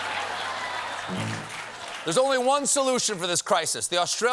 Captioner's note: applause